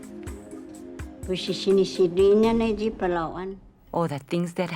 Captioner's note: non-english speech